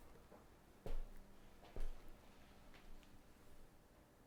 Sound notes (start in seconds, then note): 0.8 footsteps thudding